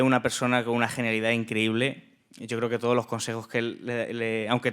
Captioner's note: speaking in Spanish